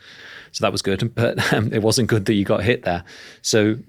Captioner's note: chuckles